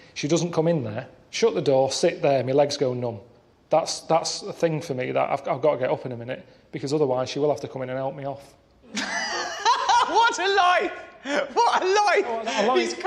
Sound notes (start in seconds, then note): 8.8 laughter